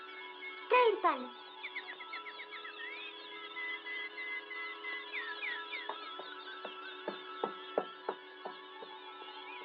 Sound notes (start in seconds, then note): 2.3 twittering Continues